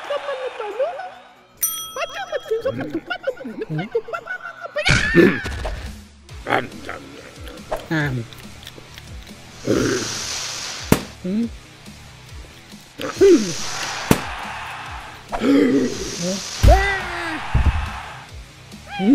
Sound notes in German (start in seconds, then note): 1.6 Glockenschlags; 4.8 überraschter schrei; 9.6 Grunzens; 10.3 kauend; 10.9 Knackgeräusch; 13.0 Grunzen; 16.6 überraschter schrei